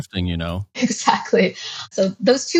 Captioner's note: laughs